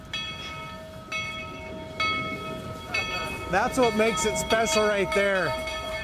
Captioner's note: bell rings